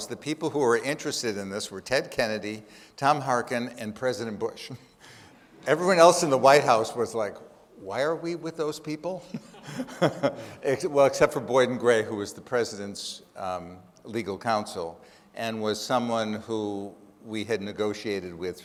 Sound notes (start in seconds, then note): 9.2 laughs